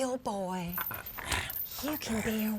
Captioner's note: zombie walter grumbling